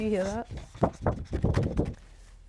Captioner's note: paper wobble sounds